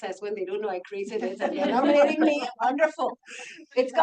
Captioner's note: laughs